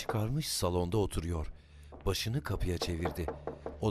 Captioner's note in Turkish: Kapı vurulma sesi; Ayak sesi; Kapı vurulma sesi